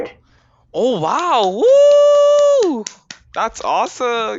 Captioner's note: claps